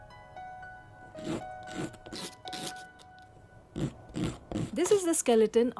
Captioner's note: grating sound